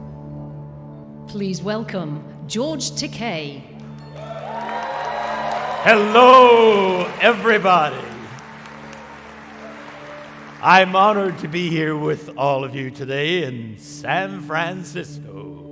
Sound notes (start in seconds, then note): 1.4 voice-over; 4.1 congregation cheering